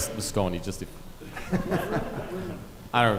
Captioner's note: audience laughing softly